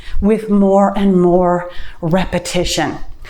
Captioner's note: none